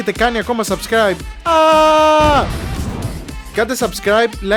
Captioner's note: explosion